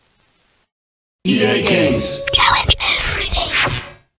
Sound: whispering

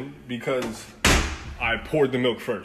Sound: Nicole stomps the floor

